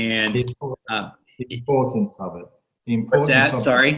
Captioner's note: speaks faintly